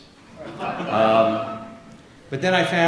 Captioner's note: audience laughs